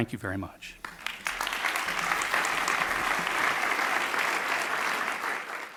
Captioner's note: audience clapping